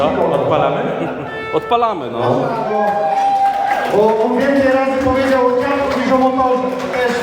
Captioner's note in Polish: Aplauz